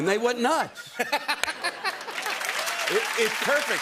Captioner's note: laughter and applause